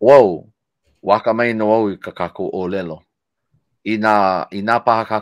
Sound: speaking foreign language

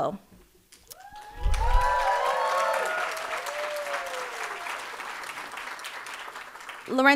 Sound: audience applauding and cheering

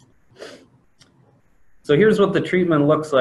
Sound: sniffs

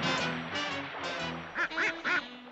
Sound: quacks

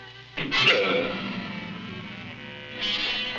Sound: grunting

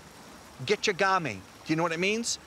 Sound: speaks foreign language

